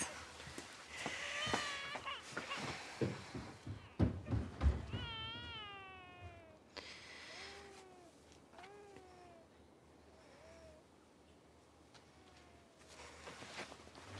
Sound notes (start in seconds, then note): 0.9 Seb continues to cry and Vic runs up the stairs; 8.6 Seb coos